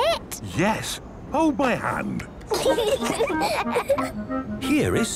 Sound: children giggling

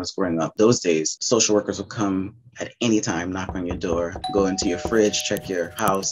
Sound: doorbell

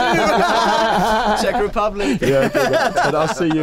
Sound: laughing loudly

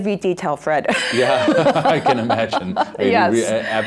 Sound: laughing; laughs

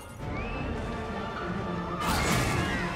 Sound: students screaming

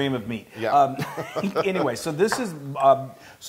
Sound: laugh

